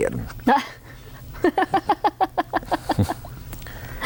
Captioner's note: laughter